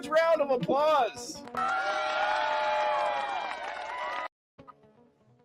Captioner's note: cheers and applause